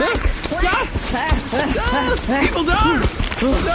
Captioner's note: running frantically